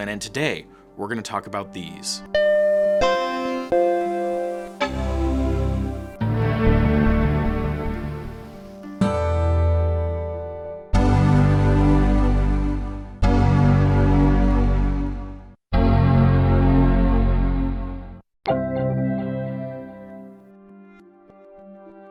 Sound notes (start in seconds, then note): 3.6 various Mac startup sounds